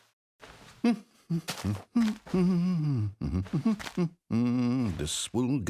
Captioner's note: humming